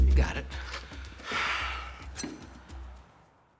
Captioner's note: sighs